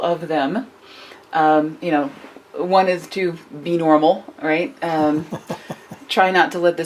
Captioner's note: chuckles